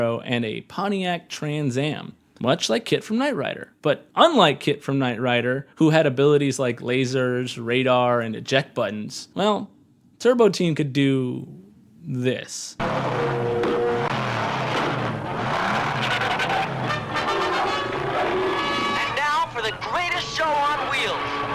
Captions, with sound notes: and a Pontiac Trans Am, much like Kit from Knight Rider. But unlike Kit from Knight Rider, who had abilities like lasers, radar, and eject buttons, well, Turbo Team could do this. (engine revving) - And now for the greatest show on wheels.